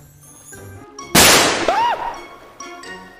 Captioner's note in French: bruit d'explosion